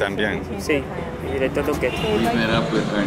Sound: speaking Spanish

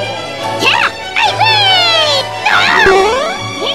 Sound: Toad Gibberish; More Toad gibberish

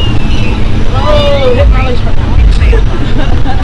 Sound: voicemail sound

